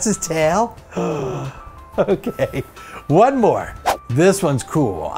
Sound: gasp

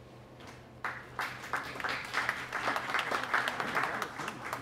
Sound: audience applauds

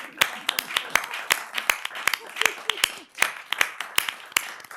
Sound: applause

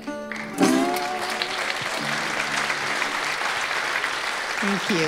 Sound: audience applauding

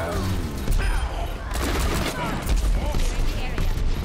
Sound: gunfire, indistinct voices

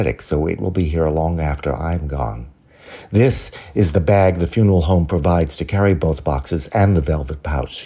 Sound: none

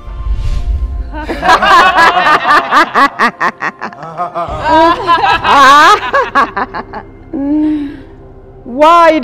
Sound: devilish Laughter

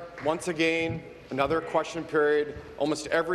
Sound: applause

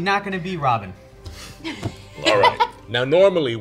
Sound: all laugh

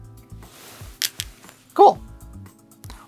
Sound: stones rattling

